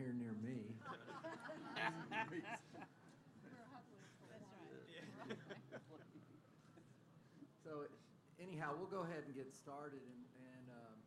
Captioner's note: laughter